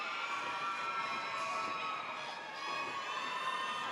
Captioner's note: audience cheers